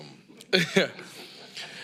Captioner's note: laughs